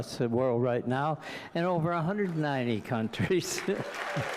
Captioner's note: applause